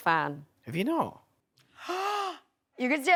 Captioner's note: gasps